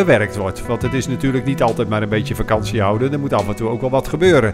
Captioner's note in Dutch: Voiceover